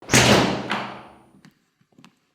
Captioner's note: door slams